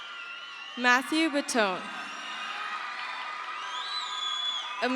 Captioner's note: crowd cheers